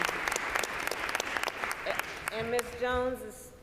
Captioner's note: applause